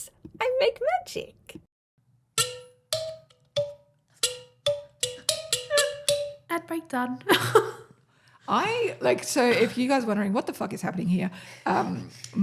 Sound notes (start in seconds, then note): 2.0 instruments playing; 8.1 laughs